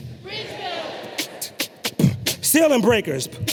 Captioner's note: beatboxes